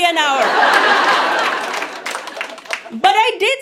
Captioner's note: audience laughs